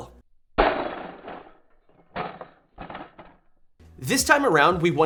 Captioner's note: rifle clatters